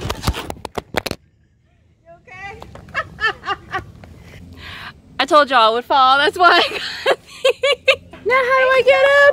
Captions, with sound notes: You ok? *laughs* I told y'all I would fall that's why I got these Now how do I get up?